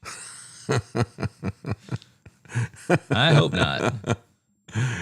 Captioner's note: laughing